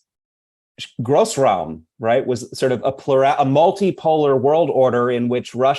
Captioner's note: speaking german